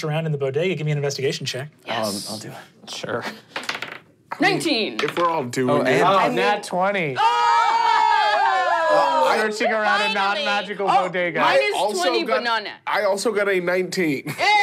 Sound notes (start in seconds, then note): 7.1 cheering